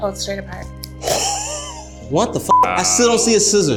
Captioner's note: beeps